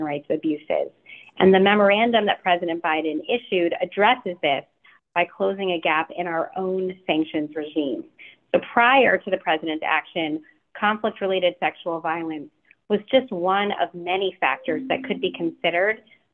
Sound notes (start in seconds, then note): none